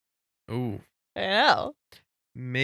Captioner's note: laughing